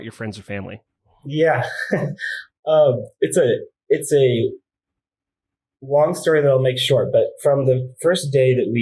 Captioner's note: laughs